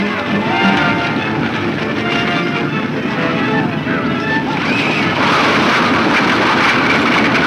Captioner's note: rattling wagon wheels; galloping hooves